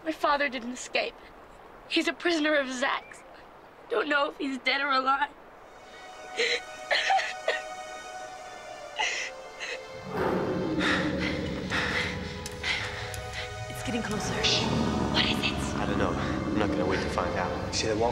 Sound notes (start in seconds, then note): 6.3 sobbing; 7.6 dramatic music; 14.0 low growling